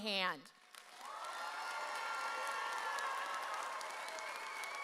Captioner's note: audience cheers